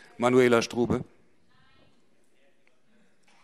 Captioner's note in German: none